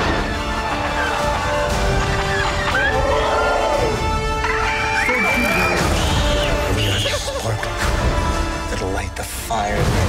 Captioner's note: Chewie roar, Porg squeak